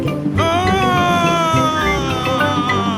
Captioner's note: screaming